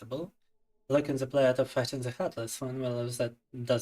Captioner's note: speaking in Russian